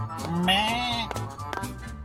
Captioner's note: bleats